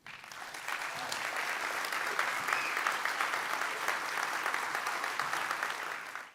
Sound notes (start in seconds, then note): 0.0 audience clapping